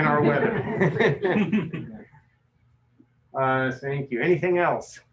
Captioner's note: laughter